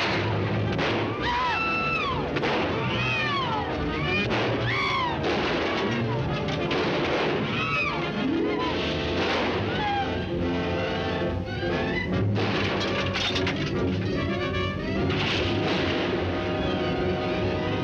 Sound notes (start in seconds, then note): 0.0 people screaming; 0.1 guns firing; 2.6 dramatic music